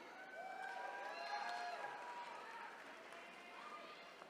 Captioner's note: attendees cheering